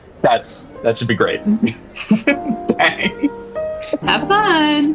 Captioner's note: giggles